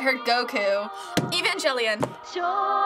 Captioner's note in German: atmet auf